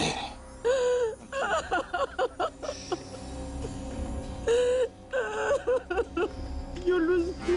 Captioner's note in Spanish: Sollozos